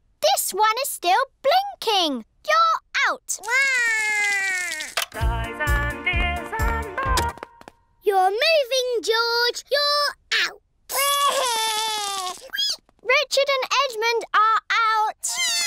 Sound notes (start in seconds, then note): 3.4 cries; 7.5 music stops; 10.9 cries